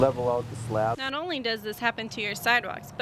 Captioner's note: voiceover